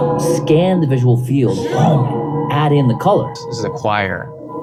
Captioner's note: recorded Voiceover; atmospheric humming